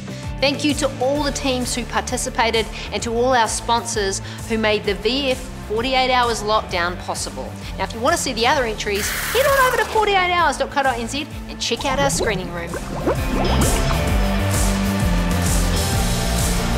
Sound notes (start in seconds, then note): 11.7 bubbles; 13.9 upbeat music